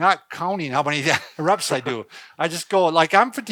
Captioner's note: chuckles